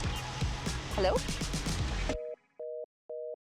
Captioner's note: phone chiming